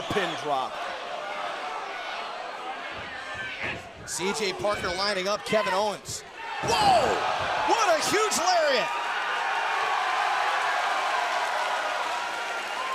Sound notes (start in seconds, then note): 0.8 crowd chatter; 9.9 crowd cheering